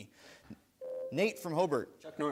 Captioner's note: bell rings